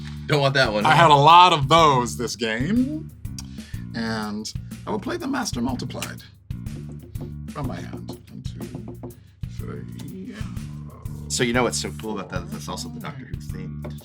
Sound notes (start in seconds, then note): 6.6 keeps drumming fingers; 6.7 drums fingers on table